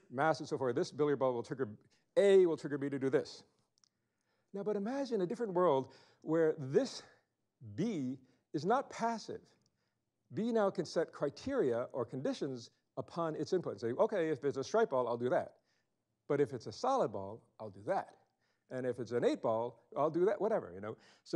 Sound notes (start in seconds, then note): none